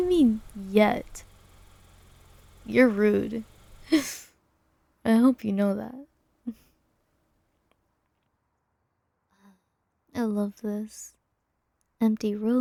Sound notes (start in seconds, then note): 3.8 laughs